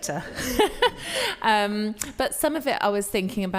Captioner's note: all laughing